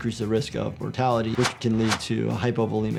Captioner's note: wind whipping